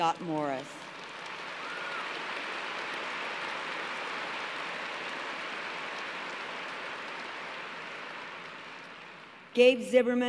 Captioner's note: applause